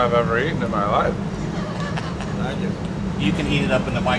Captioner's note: laughter